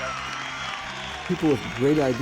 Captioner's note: audience cheers and applauds